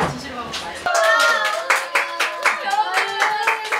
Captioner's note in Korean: 박수 짝짝